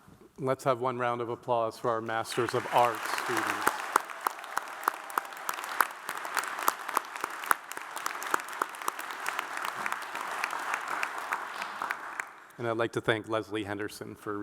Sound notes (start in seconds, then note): 4.3 audience applauds